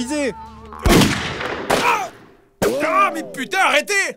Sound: gunshots

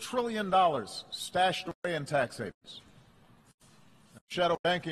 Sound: clipped audio

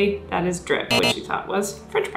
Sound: wrong answer buzzer

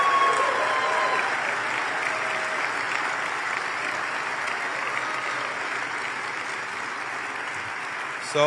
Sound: applause and cheers

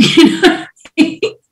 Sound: laughs

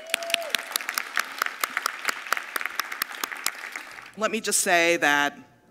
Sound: audience applauding

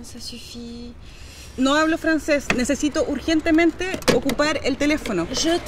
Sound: in spanish

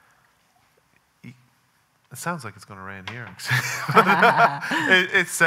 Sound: laughing

